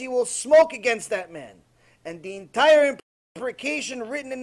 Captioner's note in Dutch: hebreeuws